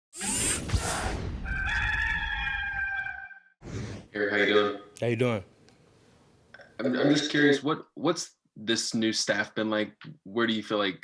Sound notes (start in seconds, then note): 0.1 robotic noises; 1.4 rooster crowing